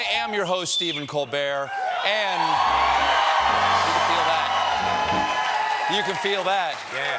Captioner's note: cheers and applause